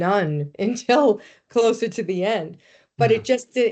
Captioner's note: chuckling